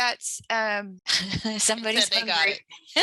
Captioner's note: laughter